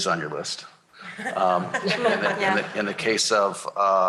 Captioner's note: laughter